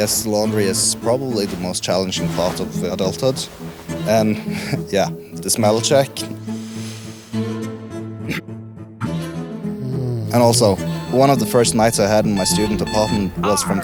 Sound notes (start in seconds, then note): 6.4 coughs; 9.7 snoring; 10.8 alarm ringing